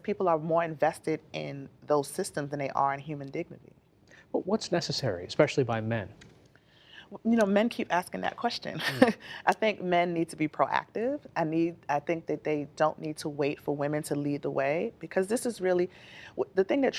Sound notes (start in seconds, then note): 8.8 laughter